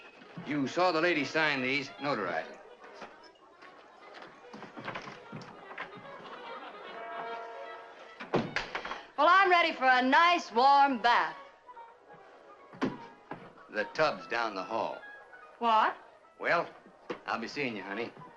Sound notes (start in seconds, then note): 8.2 door thuds